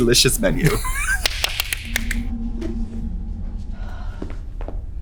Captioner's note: Trixie clapping